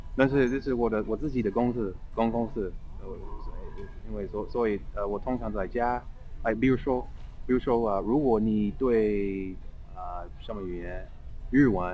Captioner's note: mandarin